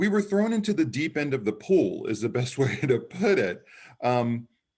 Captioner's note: chuckles